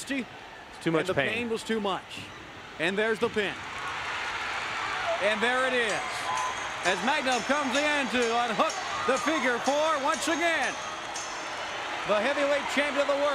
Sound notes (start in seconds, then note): 3.6 crowd cheering; 9.1 crowd cheering; 13.1 bell ringing